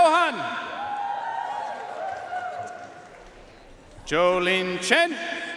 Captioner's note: audience cheering and applauding